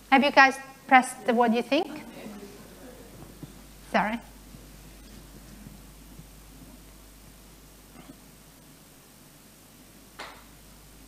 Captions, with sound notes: Have you guys pressed what you think? (murmuring) Sorry.